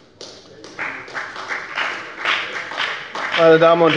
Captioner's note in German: Beifall bei der FDP und bei Abgeordneten der SPD